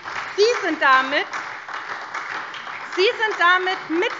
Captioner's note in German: Beifall SPD